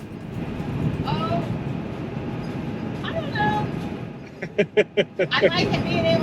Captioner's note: laughs